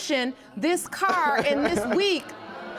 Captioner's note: laughing